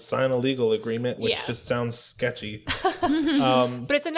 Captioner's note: laughter